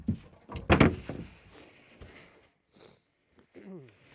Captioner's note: wood thudding